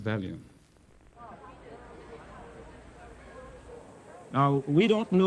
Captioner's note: people chattering